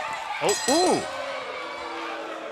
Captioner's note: bell ringing